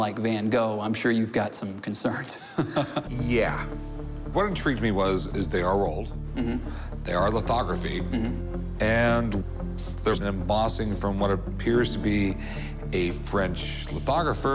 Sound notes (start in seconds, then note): 2.2 laughs